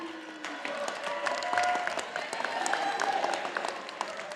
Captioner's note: audience applauding